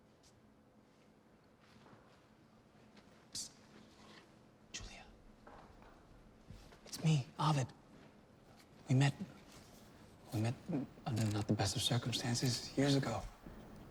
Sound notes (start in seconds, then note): 4.5 whispering